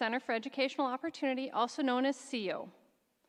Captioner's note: none